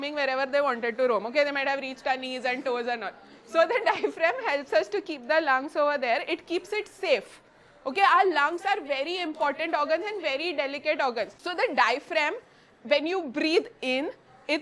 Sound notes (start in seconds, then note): 3.6 students giggle